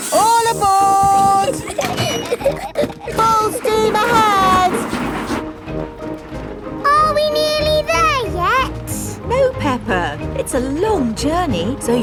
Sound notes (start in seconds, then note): 1.4 giggling